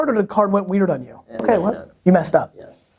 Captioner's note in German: murmelnd